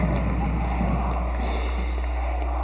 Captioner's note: chanting; audience cheers